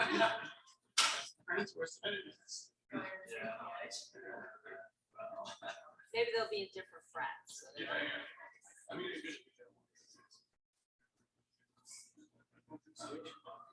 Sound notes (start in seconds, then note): 0.0 man laughing; 2.9 people chattering indistinctly; 7.6 people chattering indistinctly